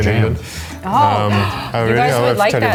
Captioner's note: audibly gasps